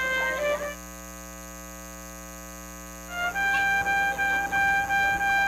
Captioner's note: classic jazz music; continuous buzzing; classic jazz music